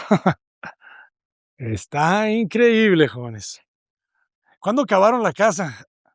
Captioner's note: risas